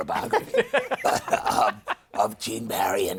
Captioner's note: laughter